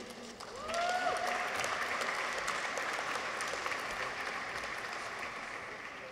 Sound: audience applauds; people cheer

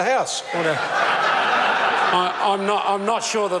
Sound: members laugh

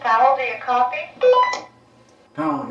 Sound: beeping

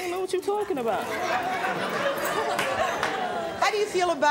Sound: audience laughing

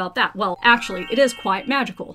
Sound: chimes ringing

